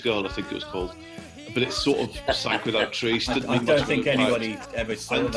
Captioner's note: o.c laughter